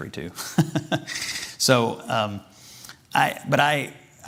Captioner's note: chuckles